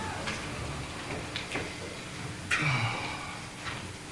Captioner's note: loud sigh